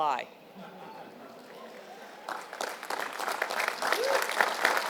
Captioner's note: laugh; applause